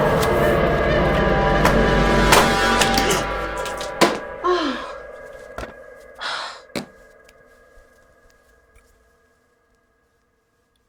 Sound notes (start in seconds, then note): 0.0 suspenseful music; 3.2 Ally gasps; 3.2 paint bottle thudding; 6.2 Ally scoffs